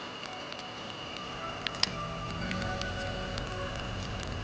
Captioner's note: birds chirping; fire crackling